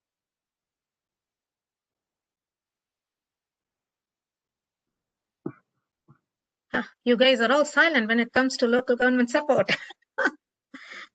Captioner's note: laughter